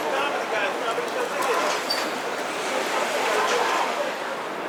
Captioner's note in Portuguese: Vozes